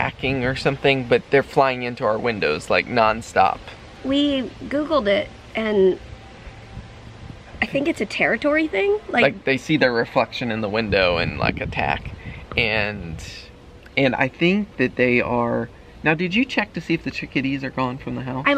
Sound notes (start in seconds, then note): none